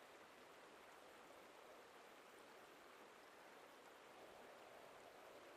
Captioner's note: wind blowing softly